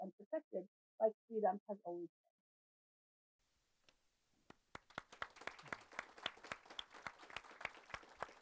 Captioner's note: applause